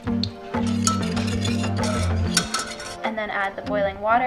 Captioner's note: metallic scraping